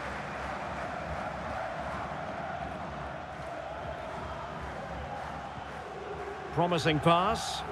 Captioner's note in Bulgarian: Аплодисменти